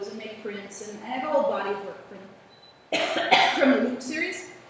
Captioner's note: coughing